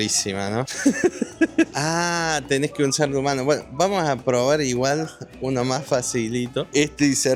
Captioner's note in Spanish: risas